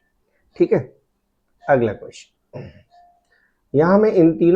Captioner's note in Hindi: गला साफ़ करने की आवाज़